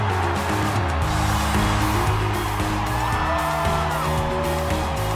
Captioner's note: fans cheering; upbeat music